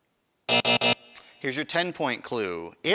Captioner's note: buzzer